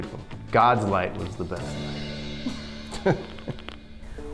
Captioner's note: laughs